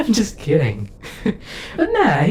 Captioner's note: VIXEN chuckles